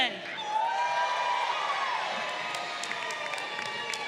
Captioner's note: crowd cheering